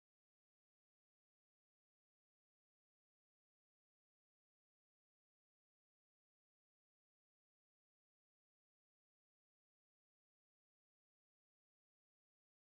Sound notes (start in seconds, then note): none